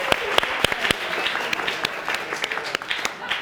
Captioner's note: audience applauding